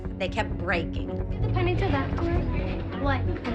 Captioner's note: chatter